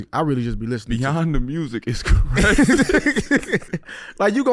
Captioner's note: laughing